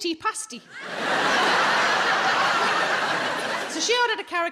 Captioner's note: audience laughing